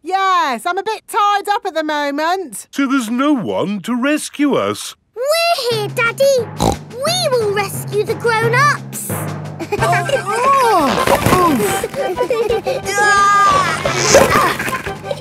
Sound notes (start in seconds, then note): 6.6 snorts; 9.6 giggling; 9.9 grunting; 12.8 giggling